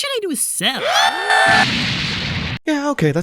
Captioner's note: boom